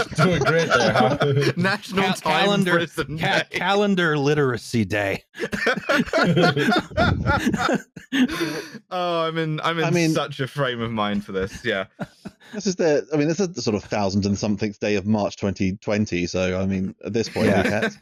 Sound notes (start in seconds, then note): 0.0 laughing; 5.2 all laughing